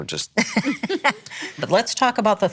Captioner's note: laughs